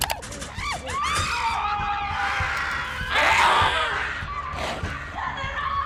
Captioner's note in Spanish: activista y chimpancé gritando